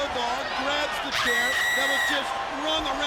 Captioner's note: screaming